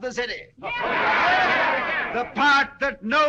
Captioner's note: جمهور يهتف